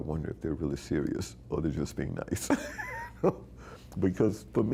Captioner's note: laughing